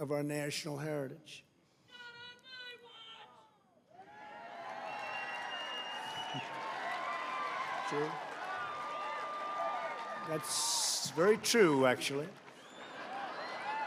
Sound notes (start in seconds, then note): 6.7 applause; 12.9 laughter